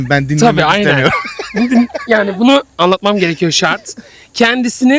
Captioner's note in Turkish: kahkaha